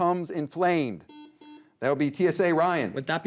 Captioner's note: buzzer beeps